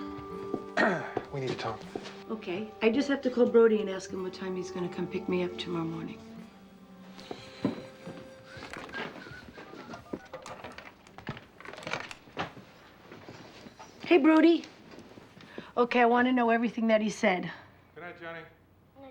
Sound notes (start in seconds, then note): 0.7 clears throat; 8.1 whistling softly; 9.5 dialing